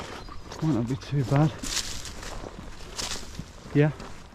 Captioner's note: footsteps rustling